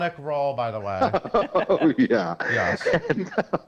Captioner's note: laughs